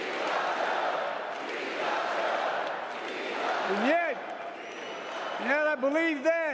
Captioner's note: crowd chanting "we love joe"